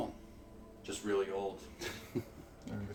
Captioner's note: chuckles